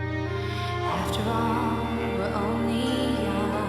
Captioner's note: none